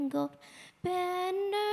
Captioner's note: none